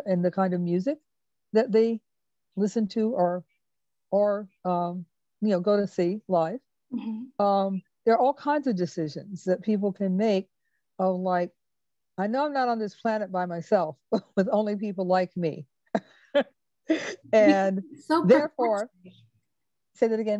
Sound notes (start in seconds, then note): 16.9 laughs